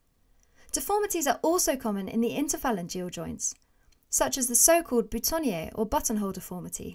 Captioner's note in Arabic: بللغة الفرنسية